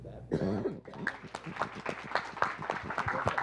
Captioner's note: applause